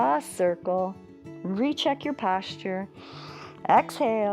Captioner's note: inhales